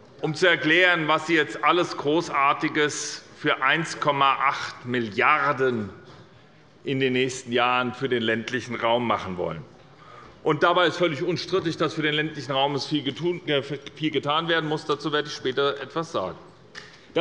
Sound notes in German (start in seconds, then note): none